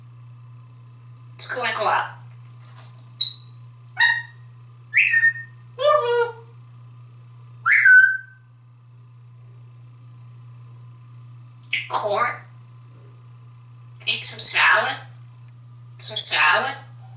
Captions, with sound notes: Let´s go and go out. [Whistles] Corn. Eat some salad? Some salad?